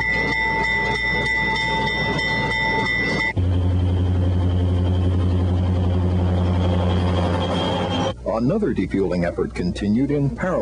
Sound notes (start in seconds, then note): 0.8 train whistles